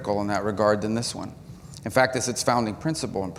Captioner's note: none